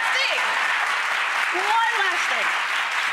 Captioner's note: crowd applauding